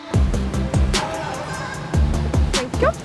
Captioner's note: car engine roaring